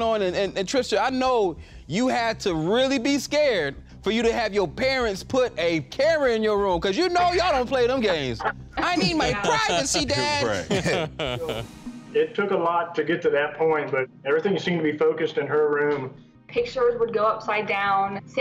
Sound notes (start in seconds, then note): 10.5 laughter